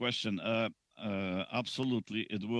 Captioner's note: speaking Alternate Language